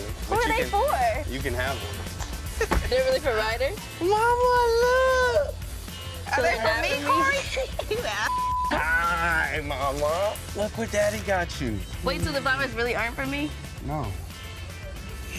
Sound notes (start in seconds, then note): 2.4 laughs; 8.2 beep